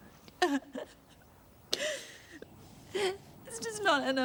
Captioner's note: Trina sobbing